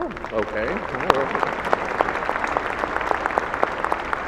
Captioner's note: applause